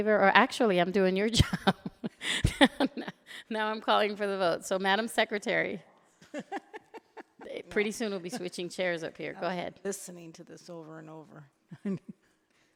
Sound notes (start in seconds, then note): 2.8 laughing; 6.2 laughing